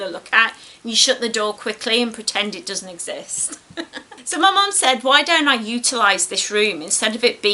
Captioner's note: laughs